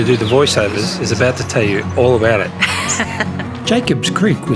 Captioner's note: laughter